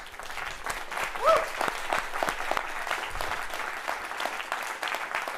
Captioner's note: crowd cheering